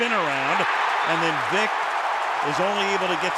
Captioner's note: cheering